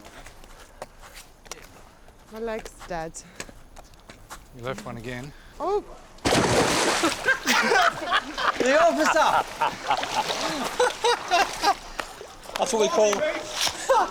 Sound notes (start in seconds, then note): 6.2 splashing sound; 7.0 laughter